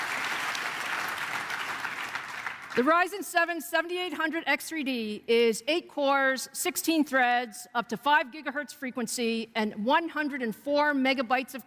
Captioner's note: applause